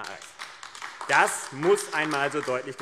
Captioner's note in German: Beifall AfD